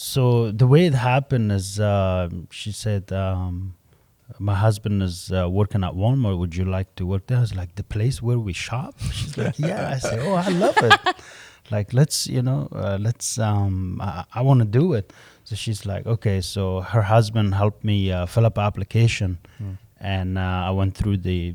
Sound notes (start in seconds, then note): 9.0 laughter